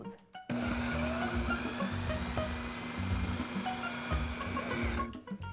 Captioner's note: processor running